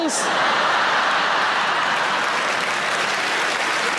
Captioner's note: audience laughs